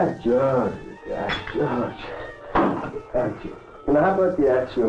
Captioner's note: soft dramatic music; speaking in Russian; glass clinking